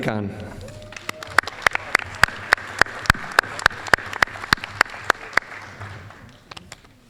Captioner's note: applause